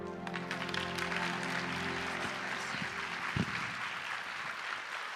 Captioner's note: audience applauding